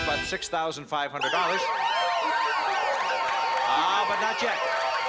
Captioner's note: sirens